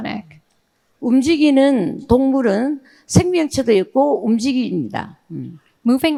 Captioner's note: speaking in foreign language